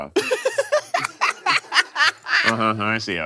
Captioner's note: laughs